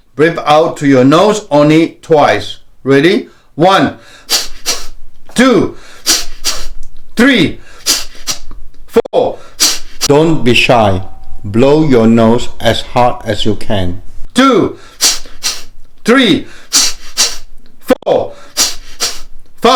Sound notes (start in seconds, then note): 5.7 breaths out; 9.3 breaths out; 14.8 breaths out; 18.3 breaths out